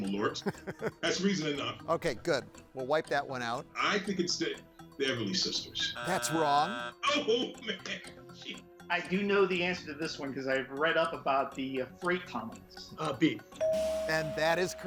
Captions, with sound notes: That's reason enough. - Okay, good. We'll wipe that one out. - I think it's the Everleigh sisters. (buzzer sounds) - That's wrong. - Oh, man, jeez. (chuckles) - I do know the answer to this one, 'cause I've read up about the freight tunnels. - B. (tone chimes) - And that is correct.